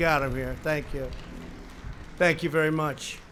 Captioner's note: applause